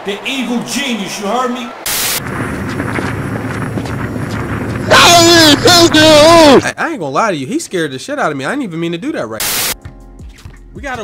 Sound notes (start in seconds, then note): 1.8 static; 4.8 incoherently yelling